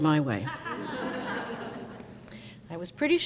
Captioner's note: crowd laughs